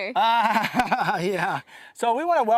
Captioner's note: laughter